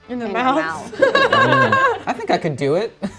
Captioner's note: group laughs